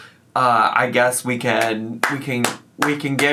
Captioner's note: applauds